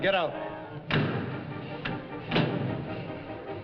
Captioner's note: door bangs